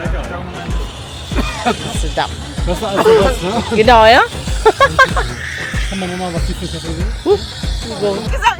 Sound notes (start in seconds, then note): 3.3 laugh; 3.3 speaking German